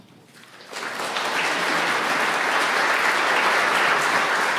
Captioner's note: audience clapping